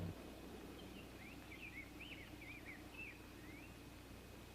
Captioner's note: birds chirping